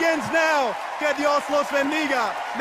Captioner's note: cheers and applause